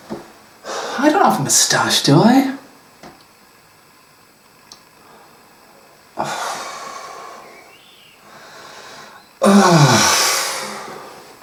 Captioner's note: sighs sadly